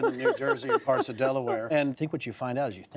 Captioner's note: laughter